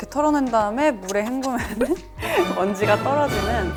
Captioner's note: slap Slap